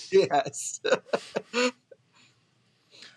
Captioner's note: laughs